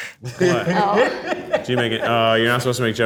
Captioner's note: laughs